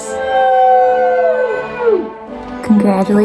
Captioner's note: cheering